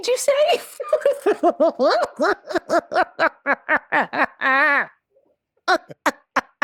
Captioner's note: laughing